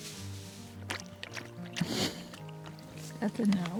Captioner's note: water lapping